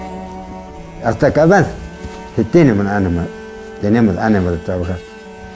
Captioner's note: speaks Spanish